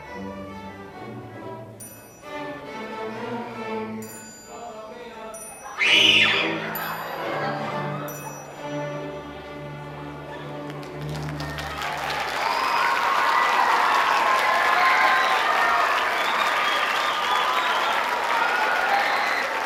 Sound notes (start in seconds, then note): 5.7 screaming; 10.3 audience applauding; 15.4 people chattering